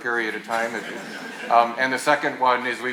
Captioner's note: attendees laughing